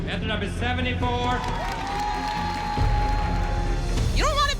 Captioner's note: crowd cheering